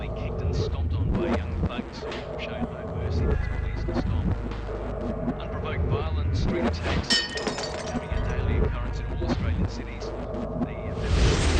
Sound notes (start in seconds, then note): 7.0 glass smashes and shatters; 11.3 car engine whirs